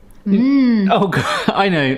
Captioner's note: hums